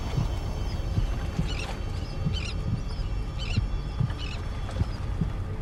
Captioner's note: birds chirping